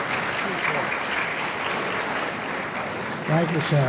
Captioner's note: audience applauding